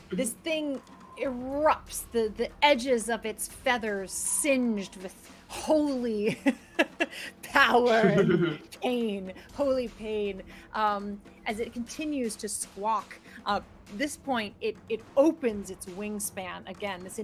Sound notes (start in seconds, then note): 7.8 laughs; 7.8 chuckles